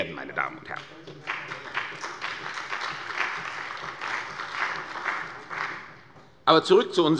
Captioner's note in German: Beifall bei der CDU und dem BÜNDNIS 90/DIE GRÜNEN